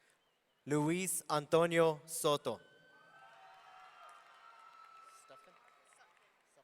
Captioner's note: audience cheering